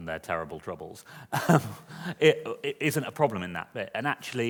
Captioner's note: laughs